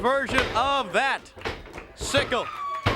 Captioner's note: crowd cheering